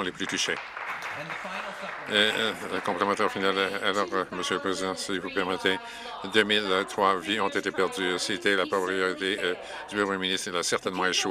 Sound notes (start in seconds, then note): 2.7 some Applause